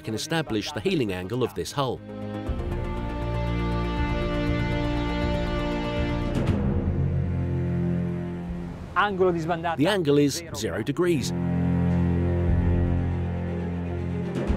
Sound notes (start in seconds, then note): 1.9 cinematic electronic music; 9.0 speaking in Italian; 11.7 cinematic music